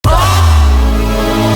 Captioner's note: screams and fades away